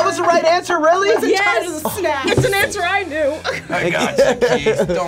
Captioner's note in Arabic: يضحك